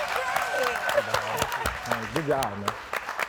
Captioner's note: audience clapping; laughs